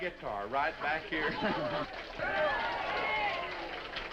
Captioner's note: all laughing; all applauding